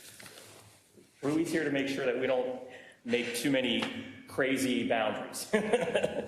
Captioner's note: laugh